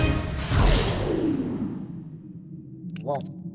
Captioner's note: whooshing